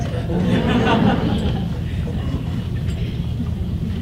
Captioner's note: audience laughs